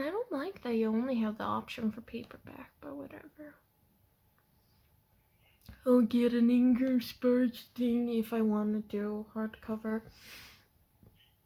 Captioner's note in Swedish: hånande ton